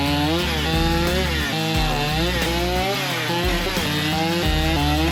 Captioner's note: upbeat music continues; saw whirring continues